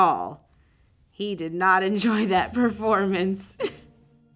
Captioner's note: laugh